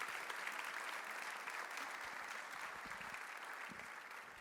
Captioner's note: applause